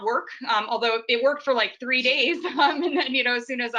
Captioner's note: laughs